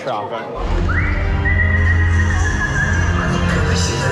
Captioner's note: pirates whistling; pirates speaking Chinese